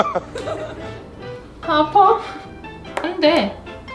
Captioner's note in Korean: 웃음